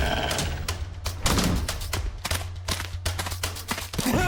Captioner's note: growling